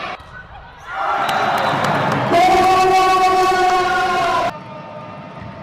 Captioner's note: very loud announcer